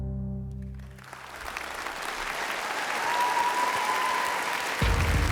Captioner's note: applause and cheering